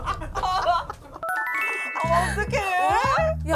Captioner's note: sound effect: smile revealing veneers